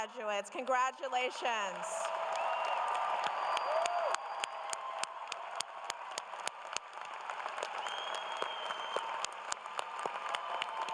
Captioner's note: cheers and applause